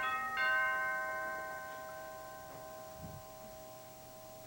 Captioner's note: doorbell rings